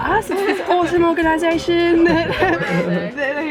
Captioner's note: she laughs